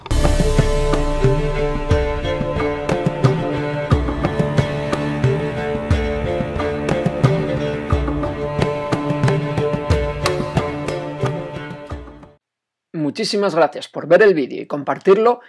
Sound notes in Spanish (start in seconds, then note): 12.3 voz en off